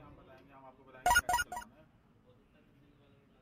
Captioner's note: phone chimes